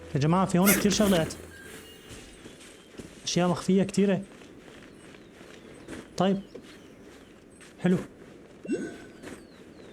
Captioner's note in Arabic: شخير; تنهد